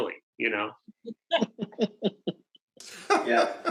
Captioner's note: all laugh